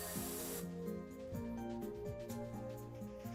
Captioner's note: none